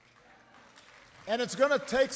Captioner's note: applause